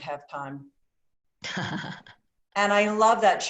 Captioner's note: laughter